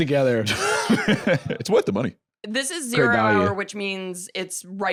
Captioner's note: laughs